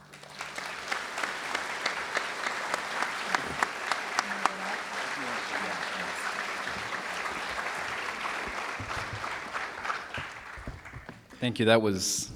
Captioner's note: applause